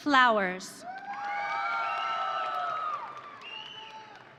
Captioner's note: audience cheering